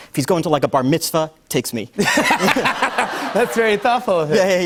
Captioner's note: laughter